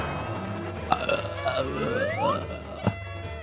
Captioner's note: groans